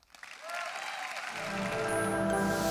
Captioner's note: audience applauds; calm music